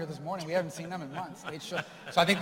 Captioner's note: laughter